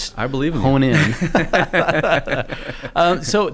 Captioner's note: laughing